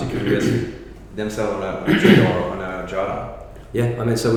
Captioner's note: coughing drowns out audio